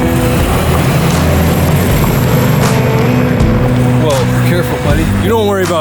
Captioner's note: car engine humming; tires scrunching